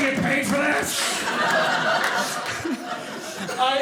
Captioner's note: audience laughing